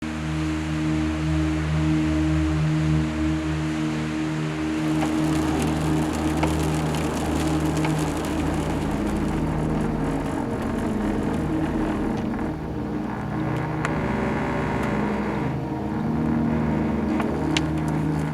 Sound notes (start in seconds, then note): 2.9 waterfall pouring; 5.9 vehicle driving; 12.1 bridge vibrating